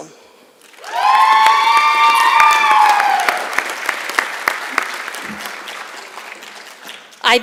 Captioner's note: applause